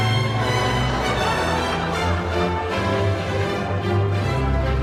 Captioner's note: audience laughing